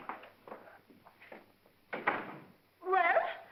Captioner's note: door closes